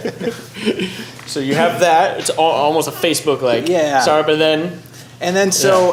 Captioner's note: laughter